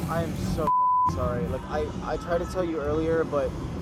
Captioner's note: beep